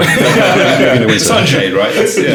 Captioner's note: laughing